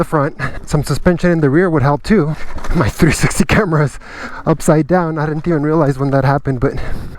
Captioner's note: snicker